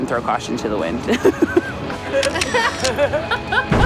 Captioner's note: laughter